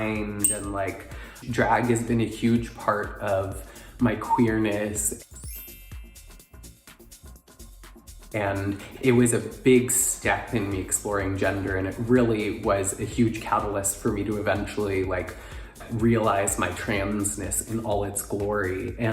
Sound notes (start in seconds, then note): 5.3 chimes ringing; 5.6 upbeat electronic music